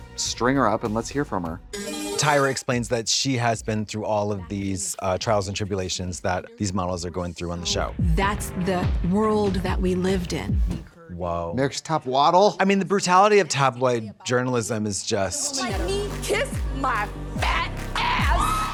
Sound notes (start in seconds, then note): 1.8 bright chime